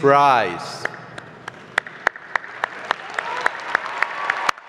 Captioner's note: applause